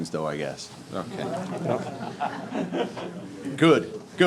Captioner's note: audience chuckling